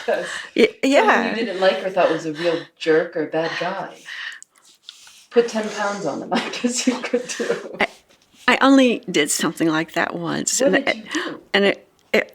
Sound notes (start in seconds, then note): 5.4 laughing